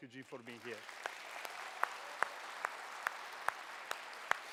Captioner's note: applause